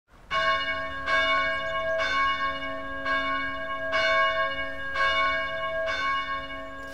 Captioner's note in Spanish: Campanas